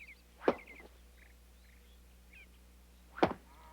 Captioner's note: stick thumping